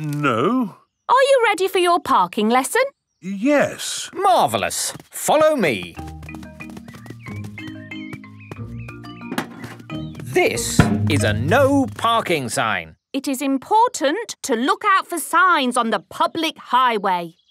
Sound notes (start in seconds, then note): none